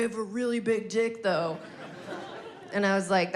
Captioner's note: audience laughing